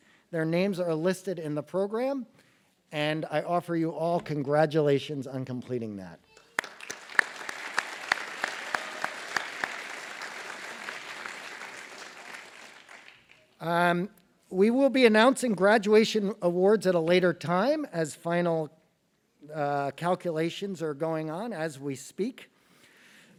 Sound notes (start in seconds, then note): 9.7 applause